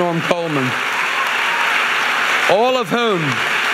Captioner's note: audience applauding